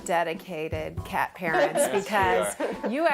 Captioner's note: laughs